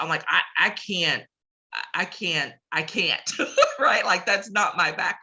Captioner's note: laughs